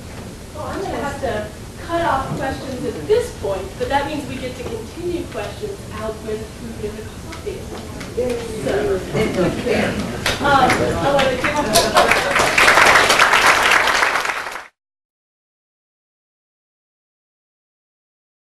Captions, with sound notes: Well, I'm going to have to cut off questions at the point. But that means we get to continue questions out where the food and the coffee is. [applause]